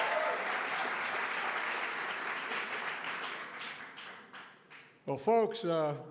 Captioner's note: applause